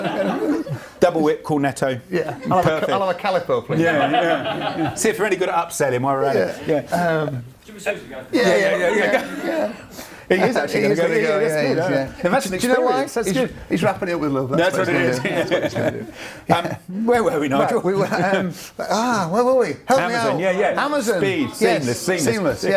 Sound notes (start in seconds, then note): 3.6 laughs; 14.7 laughs